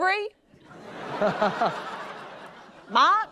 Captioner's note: laughter